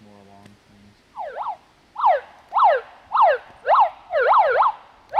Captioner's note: megaphone siren pulsating